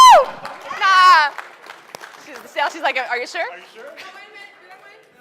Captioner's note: screaming